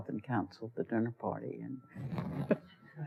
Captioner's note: laughter